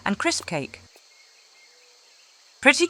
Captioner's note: silence